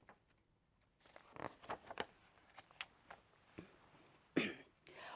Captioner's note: page turning